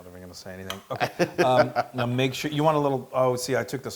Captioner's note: laugh